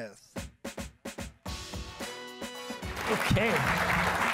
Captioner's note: upbeat jazz music; applause